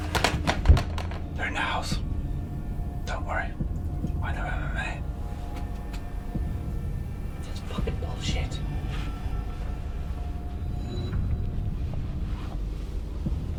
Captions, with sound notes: (objects rattling) - They're in the house. Don't worry, I know MMA. - That's fucking bullshit. (suspenseful music)